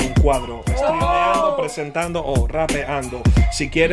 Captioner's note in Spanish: gritan